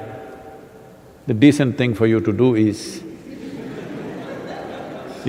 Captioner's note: laughter